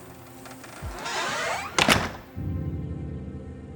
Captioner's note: door creaking and latching